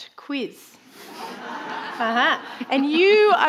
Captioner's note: audience laughing